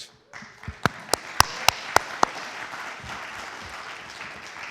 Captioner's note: audience applauds